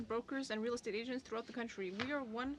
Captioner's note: speaking French